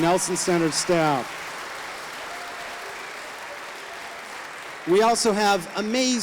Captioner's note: audience applauding